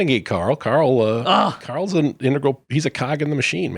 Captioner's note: grunts